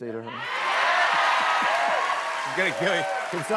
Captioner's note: cheers and applause